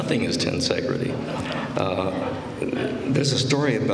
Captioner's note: laughter